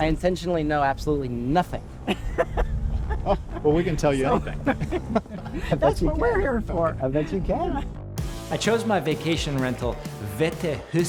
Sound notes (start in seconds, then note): 2.0 chuckles